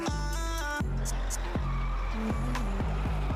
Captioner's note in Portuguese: pneu cantando